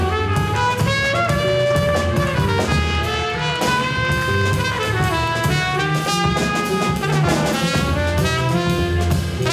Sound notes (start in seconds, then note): 3.2 audience members cheering; 5.3 powerful jazz music